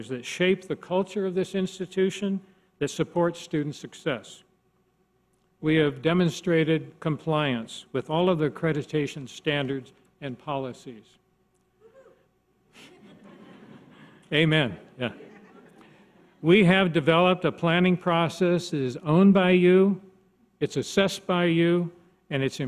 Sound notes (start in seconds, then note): 12.1 voiceover; 12.8 audience laughs